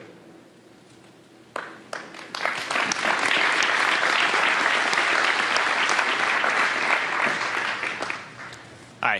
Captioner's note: applause